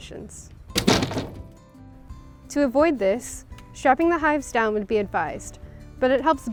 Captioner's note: slam